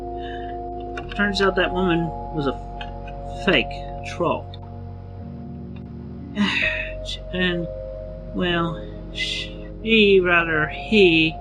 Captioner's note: sigh